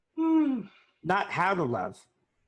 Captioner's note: sighing